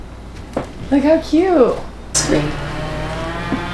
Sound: loud chainsaw noise

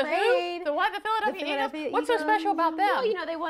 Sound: laughter

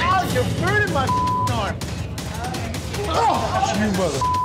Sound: beep

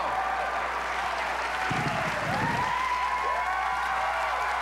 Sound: cheers and applause

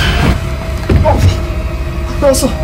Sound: grunt

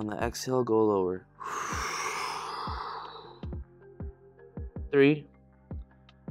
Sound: exhales loudly

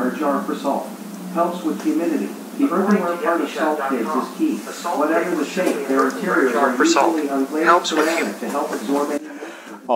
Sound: Ben's phone, overlapping

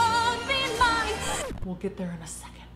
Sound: record scratching

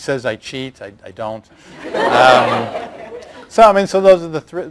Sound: laughter

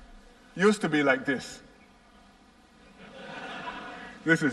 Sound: laughter

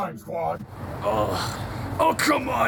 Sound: Reiko gasps in disgust

